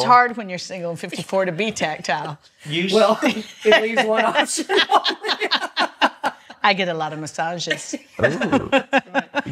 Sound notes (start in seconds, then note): 2.4 laughs; 8.1 laughs